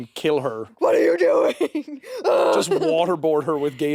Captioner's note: chuckles